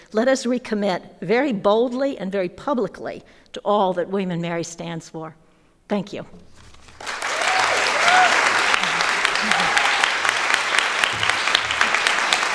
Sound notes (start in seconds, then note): 7.0 audience applauding